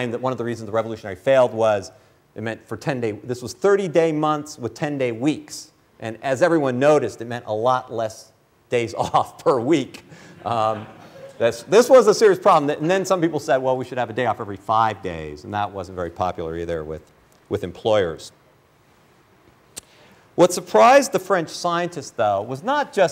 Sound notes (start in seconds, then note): 10.2 laughter